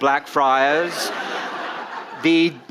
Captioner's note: audience laughing